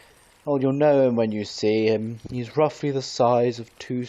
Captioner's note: none